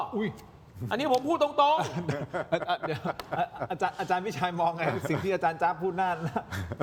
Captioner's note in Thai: เสียงหัวเราะ; เสียงหัวเราะ